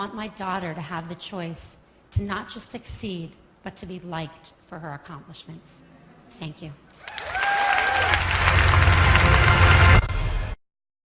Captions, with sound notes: my daughter to have the choice, to not just succeed, but to be liked for her accomplishments. Thank you. (Applause)